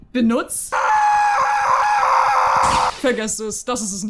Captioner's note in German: Schreie